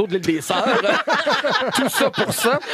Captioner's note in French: rires